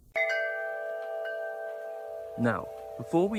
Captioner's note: windchimes